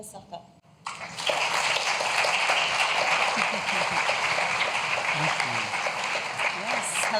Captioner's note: applause